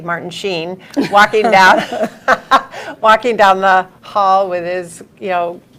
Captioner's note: laughs